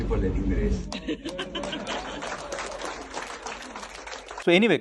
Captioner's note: audience laughs and claps